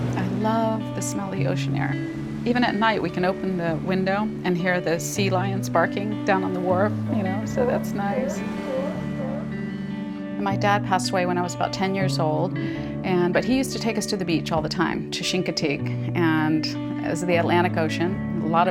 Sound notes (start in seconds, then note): 8.7 sea lions barking